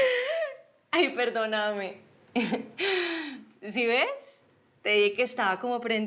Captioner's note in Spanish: risas